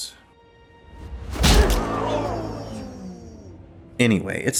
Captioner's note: smack